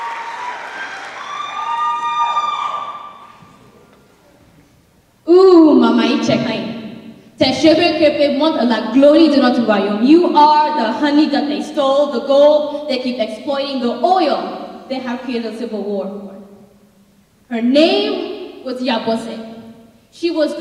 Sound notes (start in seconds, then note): 0.0 cheers; 5.7 speaking in foreign language